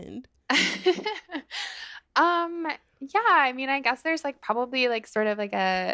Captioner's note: laughter